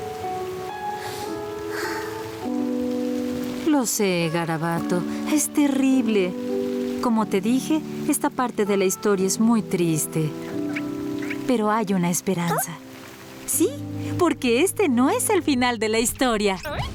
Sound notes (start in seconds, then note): 1.0 sighs